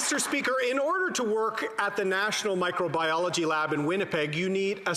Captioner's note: some Applause